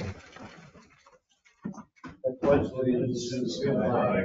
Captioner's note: chairs shuffling